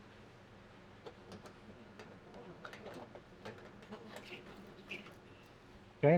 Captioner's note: silence